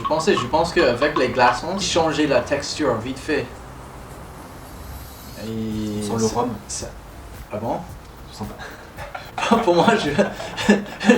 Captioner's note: haha